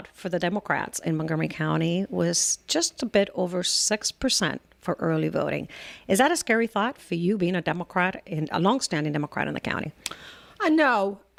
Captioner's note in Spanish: Hablando ingl\s